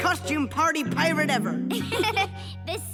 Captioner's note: laughing